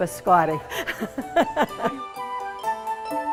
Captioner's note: laughing